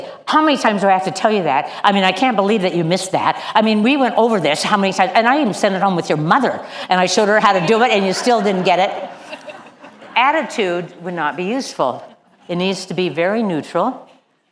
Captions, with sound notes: "How many times do I have to tell you that?" I mean, I can't believe that you missed that. I mean, we went over this how many times? And I even sent it home with your mother, and I showed her how to do it. And you still didn't get it." (LAUGH) Attitude would not be useful. It needs to be very neutral.